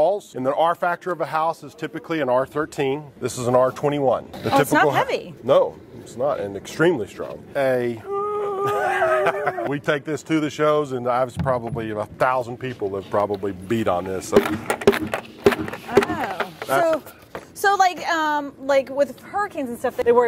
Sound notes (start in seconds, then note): 8.0 laughing; 14.2 banging sound